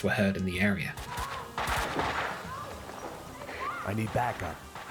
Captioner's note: gunshots, and a woman screaming for help